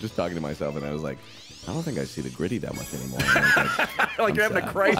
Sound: laughs

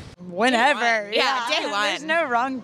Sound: laughs

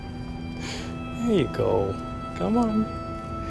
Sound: none

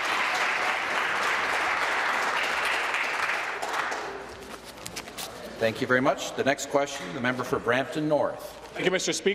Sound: applause

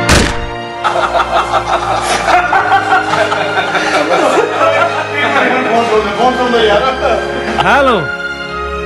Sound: laughter

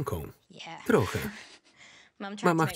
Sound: laughs

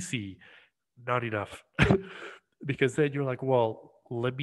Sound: cough

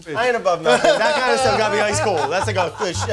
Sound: laughing

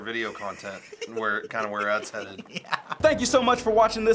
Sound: laughing

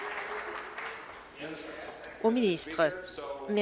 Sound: applause

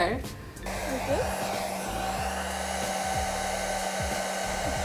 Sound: hair dryer blowing

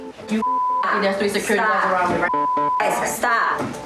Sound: beep

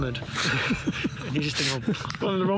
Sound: laughs

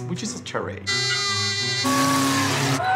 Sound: horns honking; cheering

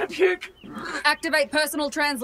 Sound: Aurelia gags

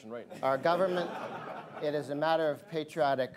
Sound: laughter

